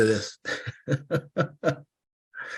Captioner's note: chuckle